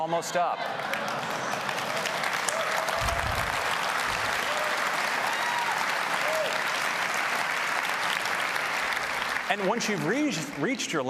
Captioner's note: applause